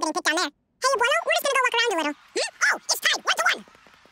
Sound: speaking fast forward

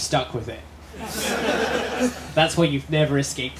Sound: laughter

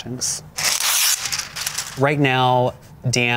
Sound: paper ripping

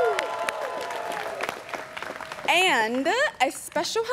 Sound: students cheering

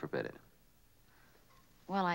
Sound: none

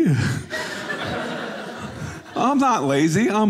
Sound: audience laughing

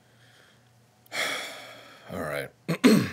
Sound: sighing

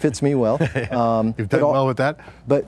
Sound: laughing

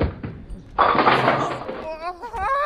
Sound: pins crashing

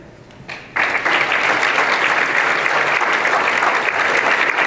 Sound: applause

